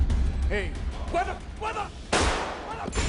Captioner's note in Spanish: Disparos